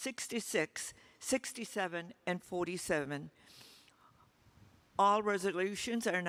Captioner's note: sniffs